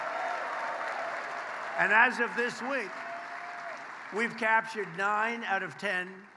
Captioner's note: applause